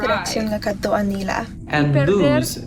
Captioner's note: speaking in foreign language